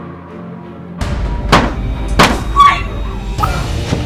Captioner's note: gun fires